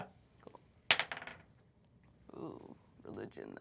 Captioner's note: die rolls